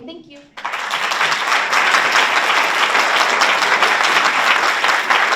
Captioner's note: audience applauds